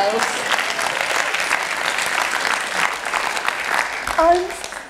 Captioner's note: applause